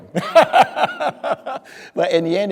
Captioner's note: speaker laughing